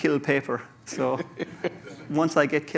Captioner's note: laughter